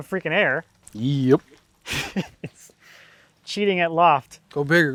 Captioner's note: laughs